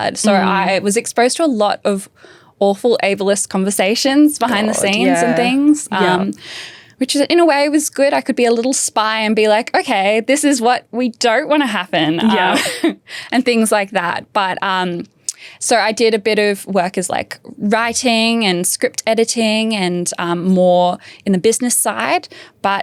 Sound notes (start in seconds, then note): 12.2 chuckles